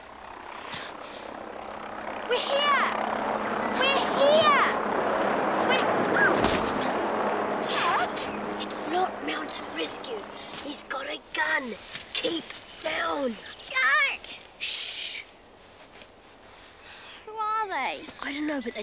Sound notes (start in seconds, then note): 6.0 squeals; 15.0 shushes